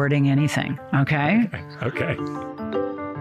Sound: chuckles

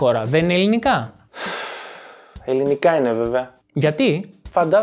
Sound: sighing

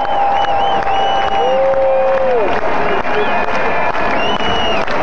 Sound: cheering

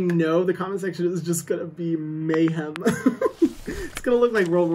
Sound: laughs

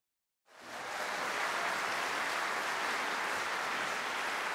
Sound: audience applauding

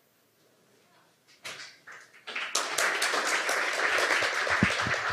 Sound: audience applauding

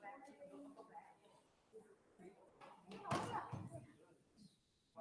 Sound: members chattering

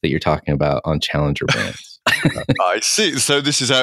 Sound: laughing

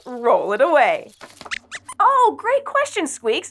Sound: squeaks

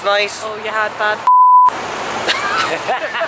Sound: beep; group laughs

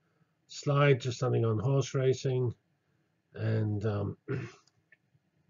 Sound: cough

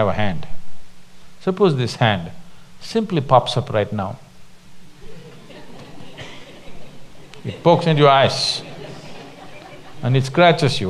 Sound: laughter; 笑聲

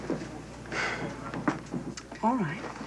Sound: sighs

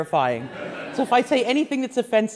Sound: class laughs

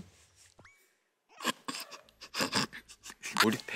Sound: burst out laughing

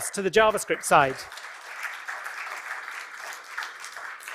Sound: applause

